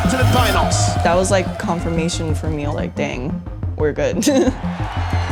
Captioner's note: chuckles